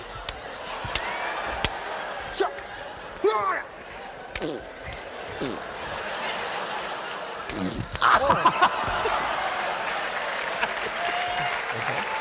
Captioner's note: making various noises